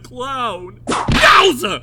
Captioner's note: whip crack!